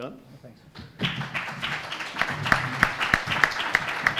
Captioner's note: applause